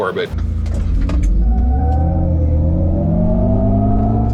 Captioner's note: Hummer revving